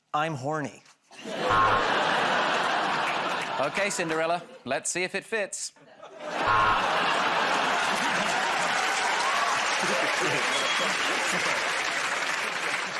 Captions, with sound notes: I'm Horny. [ Buzzer buzzes ] -Okay, Cinderella. Let's see if it fits. [ Buzzer buzzes ] [ Laughter ] [ Cheers and applause ]